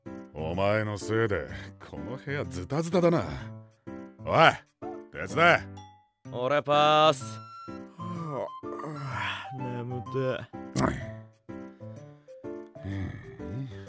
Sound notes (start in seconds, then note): 7.9 yawn